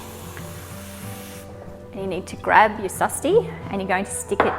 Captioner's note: water running